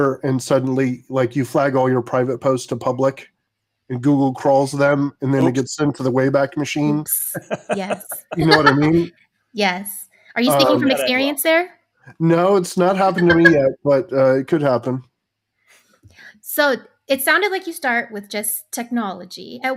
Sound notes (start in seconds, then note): 7.2 both laughing